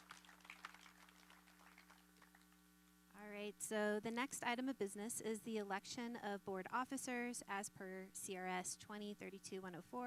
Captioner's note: applause